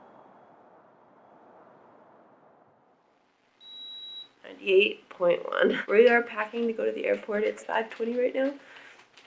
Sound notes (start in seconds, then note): 3.6 beep